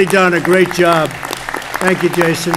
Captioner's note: applause